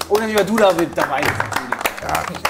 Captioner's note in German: Applaus